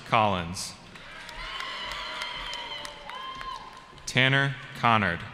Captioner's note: cheering